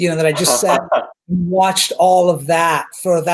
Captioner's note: laughs